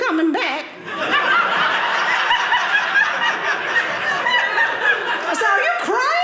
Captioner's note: audience laughing